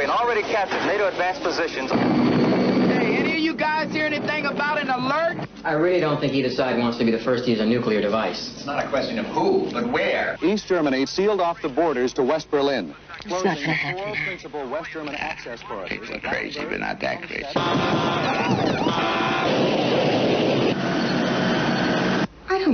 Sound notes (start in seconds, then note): 2.2 helicopter whirring; 17.6 sirens blaring; 19.7 plane whirring